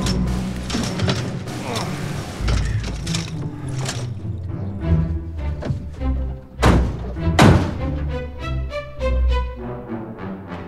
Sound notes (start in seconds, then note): 1.5 grunting; 6.6 doors closing